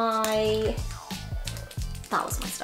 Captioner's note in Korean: 꾸루루루우욱